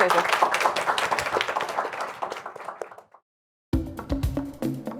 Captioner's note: crowd applauding